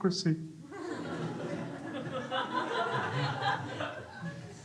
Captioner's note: crowd laughs